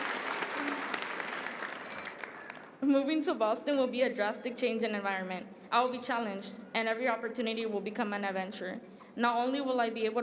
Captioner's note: applause